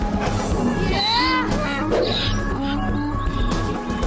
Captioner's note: braying